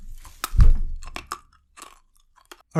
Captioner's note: crunches on pills